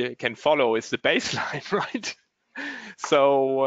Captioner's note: chuckles